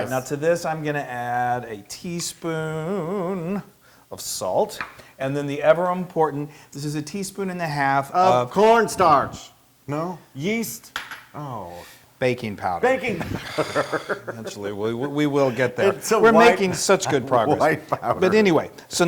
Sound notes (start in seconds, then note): 12.9 laugh